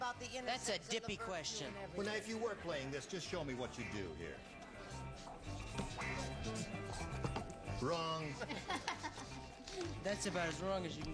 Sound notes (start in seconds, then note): 8.2 laughter